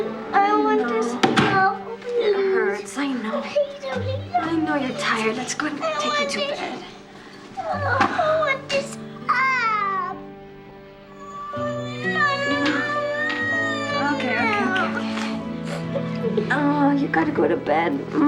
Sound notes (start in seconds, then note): 6.3 molly whining; 11.1 molly crying